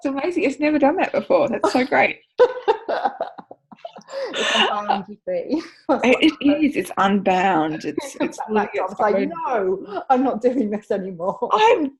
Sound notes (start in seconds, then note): 2.4 laughter